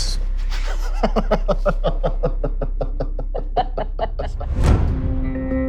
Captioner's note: laughter